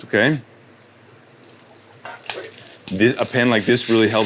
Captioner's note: pan sizzling